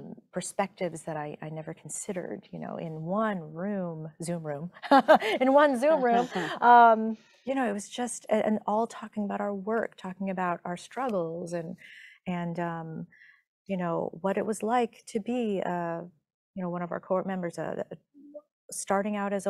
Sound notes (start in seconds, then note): 4.9 chuckling